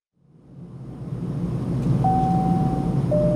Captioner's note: air whooshing; elevator dings